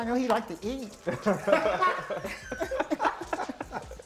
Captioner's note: laughter